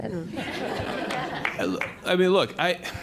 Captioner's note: laughter